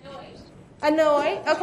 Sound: voiceover

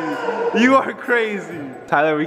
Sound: man playful yelling

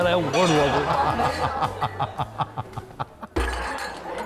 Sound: haHaHaHa

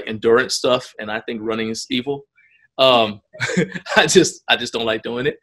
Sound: laughs

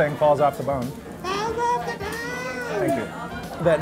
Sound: high-pitched voice

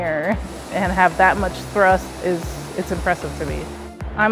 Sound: jet engine sound

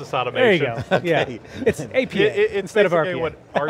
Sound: laughs

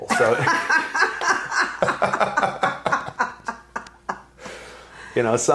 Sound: laughing

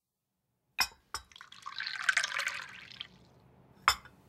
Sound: the sound of tea being poured

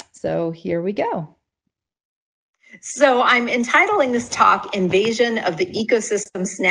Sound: speaking on pre-recorded lecture playing

